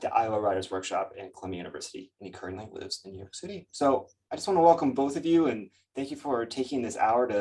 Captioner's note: none